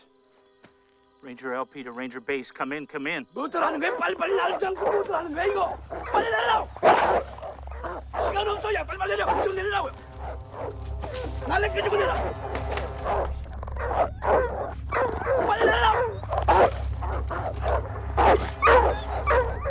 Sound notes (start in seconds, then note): 3.2 dogs Barking; 6.4 snarling; 10.2 speaking Korean; 12.5 barking, Snarling; 14.9 yelling; 17.6 barking, Snapping